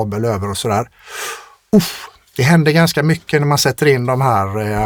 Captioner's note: scoffs